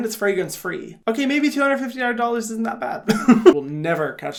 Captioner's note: laughs